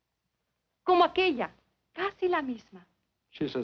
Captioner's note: speaking in foreign language